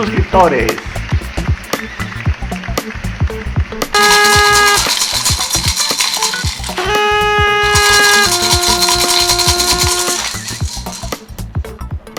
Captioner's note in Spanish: sonido de fiesta